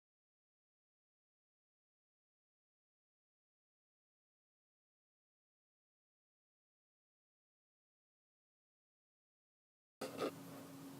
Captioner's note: no sounds